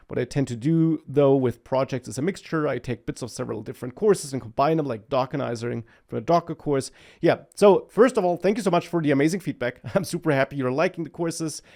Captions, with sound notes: What I tend to do though with projects as a mixture, I take bits of several different courses and combine them like Dockerizing for a Docker course. Yeah. So, first of all, thank you so much for the amazing feedback (laughs) . I'm super happy you're liking the courses.